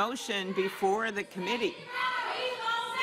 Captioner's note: yelling